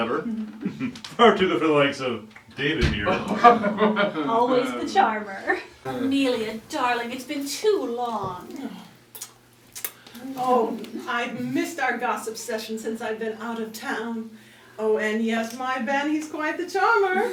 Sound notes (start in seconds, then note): 0.3 chuckle; 3.0 polite laughter; 9.7 kiss